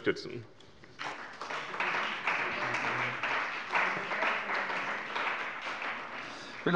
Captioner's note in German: Beifall bei dem BÜNDNIS 90/DIE GRÜNEN und der CDU